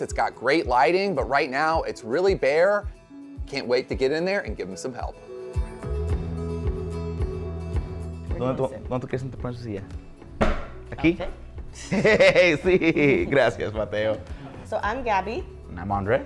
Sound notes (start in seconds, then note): 6.0 inspiring music; 8.7 speaking Spanish